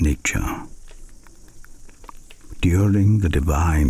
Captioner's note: fire crackling and night insects buzzing